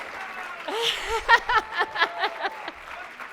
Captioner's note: laughs